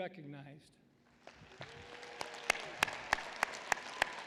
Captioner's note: applause